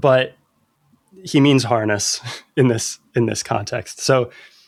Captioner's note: laughter